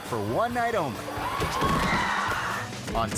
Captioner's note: actor thudding; audience gasping